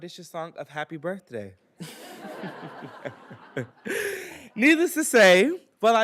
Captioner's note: everybody laughing